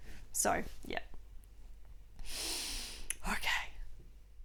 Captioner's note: takes breath